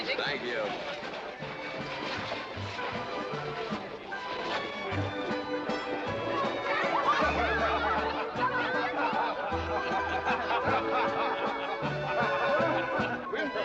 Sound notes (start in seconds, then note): 1.2 western party music; 6.3 children yelling excitedly; 9.1 guests chatting & laughing